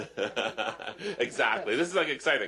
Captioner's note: laughter